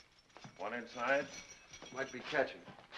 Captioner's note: keys jingle